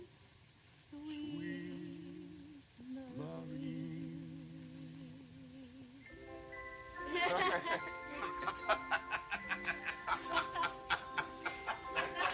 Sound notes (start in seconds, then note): 7.0 laughter